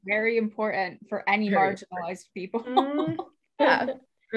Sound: laughs

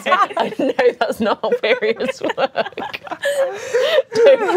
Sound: laughing

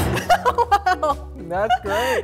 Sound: laughing

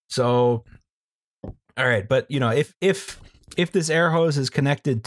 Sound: none

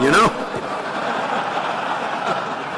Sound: laughter

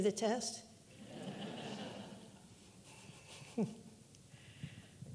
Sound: audience giggling

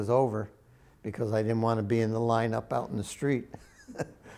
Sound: laughs

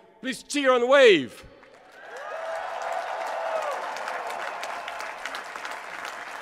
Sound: applause

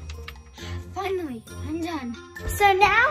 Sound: sighs

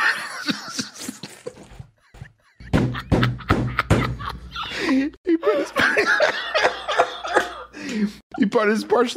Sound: wheezing laughter

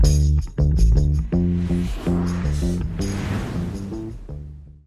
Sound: upbeat music; whooshing sound

